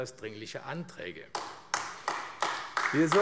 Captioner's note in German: Beifall AfD